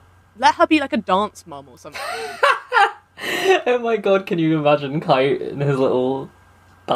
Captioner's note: laughs